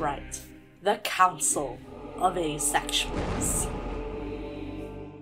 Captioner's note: thunder